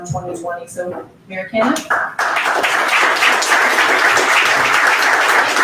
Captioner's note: audience applauds